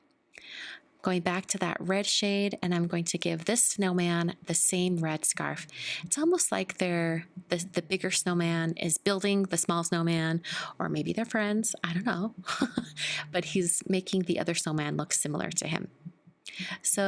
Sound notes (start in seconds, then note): 12.4 chuckles